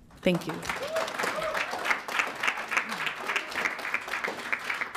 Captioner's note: audience clapping